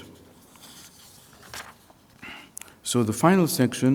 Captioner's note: pages flipping